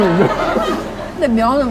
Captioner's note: chuckles